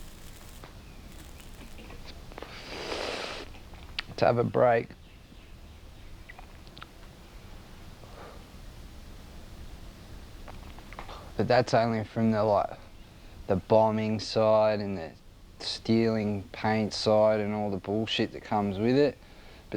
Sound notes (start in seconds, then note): 0.5 inhales; 8.0 exhales